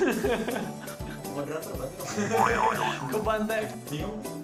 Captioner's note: nervous laughter